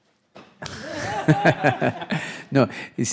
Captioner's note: laughing; audience laughing